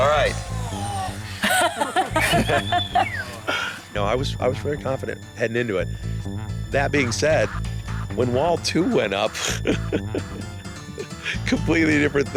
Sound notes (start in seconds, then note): 0.6 lalaugughthterer; 8.8 lauaughghs